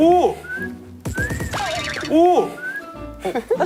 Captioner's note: شخص آخر يصفير